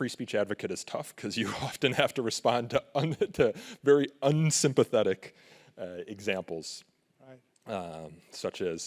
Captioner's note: laughs